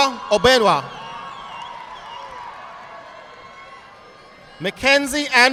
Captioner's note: audience applauding